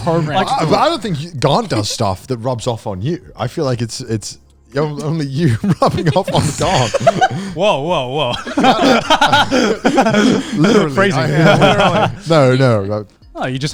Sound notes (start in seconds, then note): 5.8 laughing; 9.0 all laughing